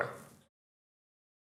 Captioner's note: silence